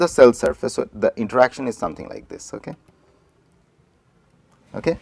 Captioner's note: electro static interaction